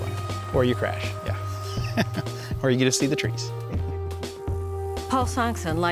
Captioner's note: laughs